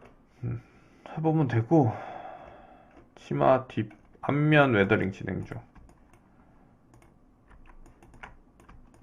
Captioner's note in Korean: 한숨